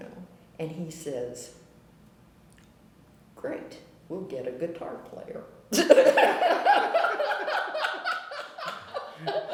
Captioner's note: laughter